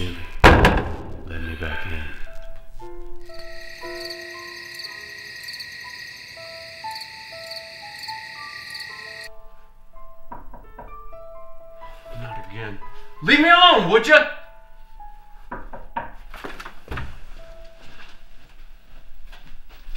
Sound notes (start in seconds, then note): 3.2 insects buzzing; 10.2 knocking at door; 15.5 knocking at door